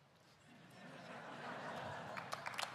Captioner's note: laughter; applause